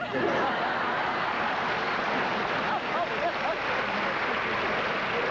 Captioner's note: applause